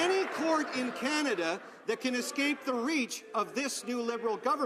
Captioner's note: some Applause